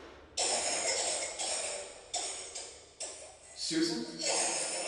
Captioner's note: Susan coughing